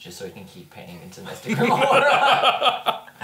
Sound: laughs

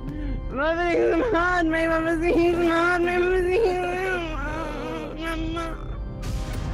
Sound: sobbing and losing sanity from the game

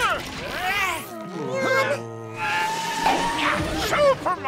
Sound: groaning; grunting

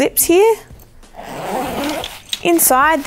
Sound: zippers pulling

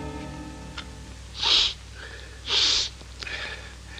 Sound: snuffs tobacco

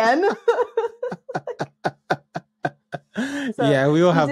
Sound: both laughing

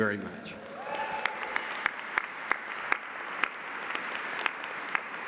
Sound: audience applauding

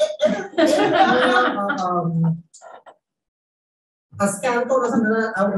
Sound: panelists laughing

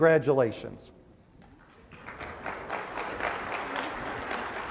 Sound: applause

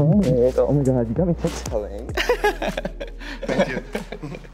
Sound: giggles

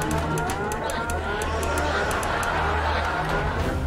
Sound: emergency sirens blaring

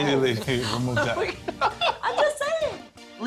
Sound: laughs

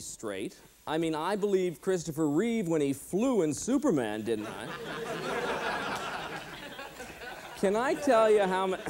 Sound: laughter

